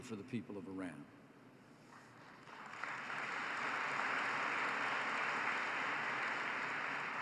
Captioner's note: applause